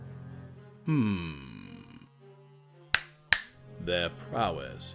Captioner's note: Strahd snaps his fingers